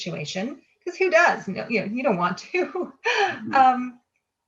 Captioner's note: laughs